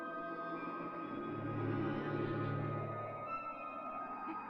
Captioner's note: ominous whirring